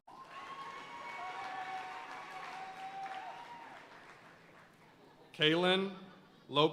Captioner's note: audience cheering and applauding